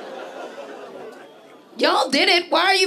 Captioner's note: audience: Oooooh